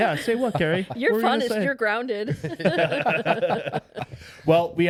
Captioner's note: laughing